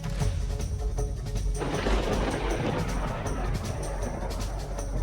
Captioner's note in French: le tonnerre s'écrase